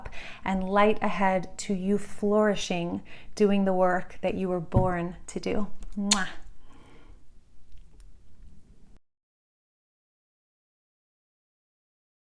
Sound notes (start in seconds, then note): 6.0 blowing kisses